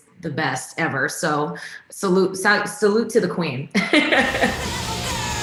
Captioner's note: laughing